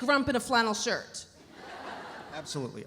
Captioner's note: audience laughs